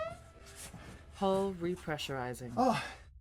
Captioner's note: computer Voice